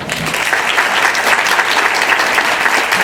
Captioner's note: applause